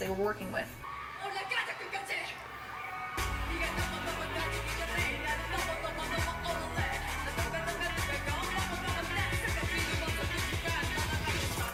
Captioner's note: rapping in Korean